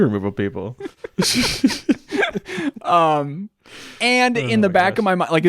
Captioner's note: both laughing